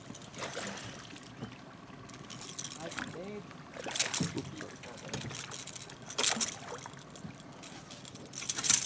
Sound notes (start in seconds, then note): 0.3 fish splashing; 5.0 lure rattling; 7.5 fish splashing